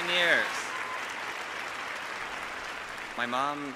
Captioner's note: applause